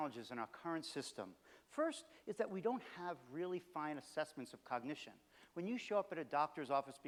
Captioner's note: none